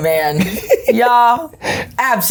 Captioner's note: laughing